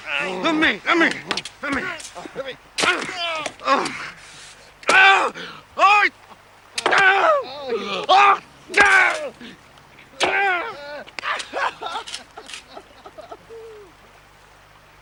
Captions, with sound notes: Let me, let me, let me! Let me! (GRUNTING) (SOBBING)